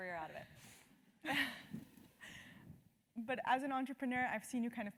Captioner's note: laugh